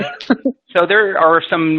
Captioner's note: laughing